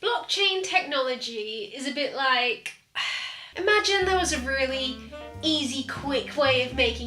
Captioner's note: sigh